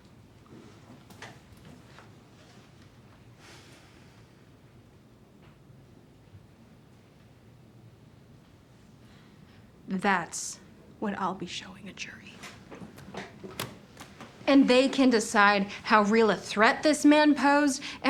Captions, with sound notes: That's what I'll be showing a jury. [SHUTS LAPTOP] And they can decide how real a threat this man posed